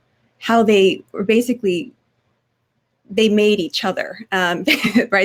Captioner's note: laugh